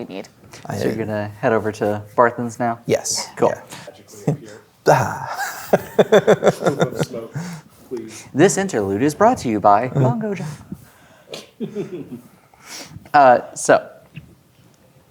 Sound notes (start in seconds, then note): 4.8 laughing; 11.3 chuckles